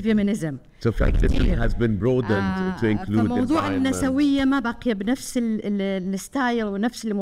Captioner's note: speaking foreign language